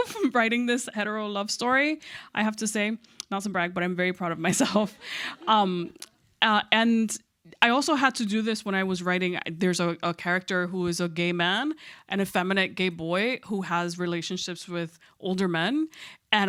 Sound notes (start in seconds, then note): 0.1 chuckles; 4.8 audience chuckles